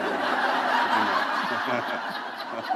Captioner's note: laughter